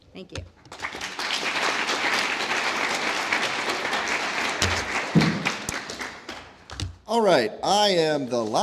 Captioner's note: applause